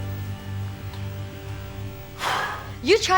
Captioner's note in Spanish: suspira